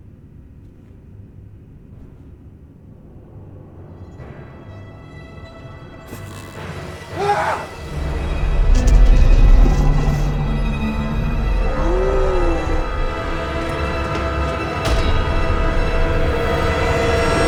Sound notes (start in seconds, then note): 5.9 door creaking; 6.9 soft ominous music; 7.1 Rob shrieking; 9.1 tense orchestral music; 11.5 creature growling; 13.7 intense orchestral music